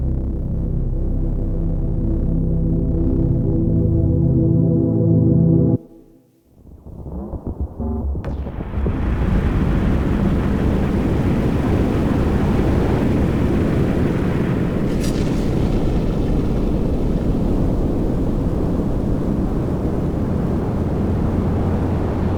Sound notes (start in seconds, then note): 0.5 gentle music; 9.8 rocket whooshes